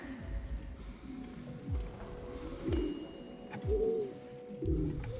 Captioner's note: birds cooing